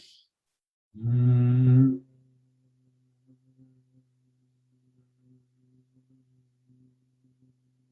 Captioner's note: гудіння, мов у джмеля